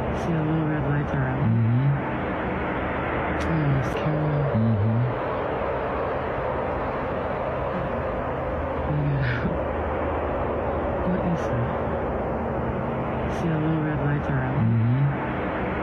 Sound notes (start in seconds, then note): 6.4 wind Blowing